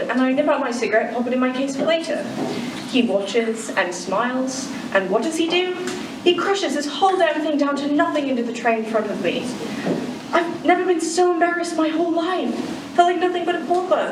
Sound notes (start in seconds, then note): none